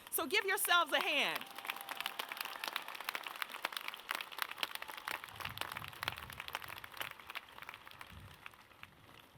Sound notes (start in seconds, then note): 1.6 audience claps